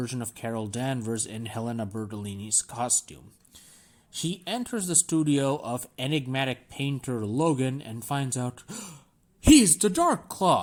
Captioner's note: gasp